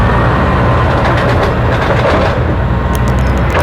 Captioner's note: sound of garbage truck